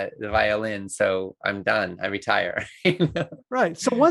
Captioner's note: laughs